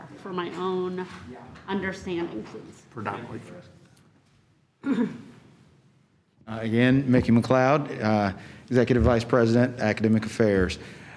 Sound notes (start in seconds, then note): 4.8 clears throat